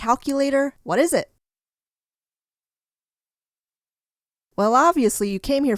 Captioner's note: silence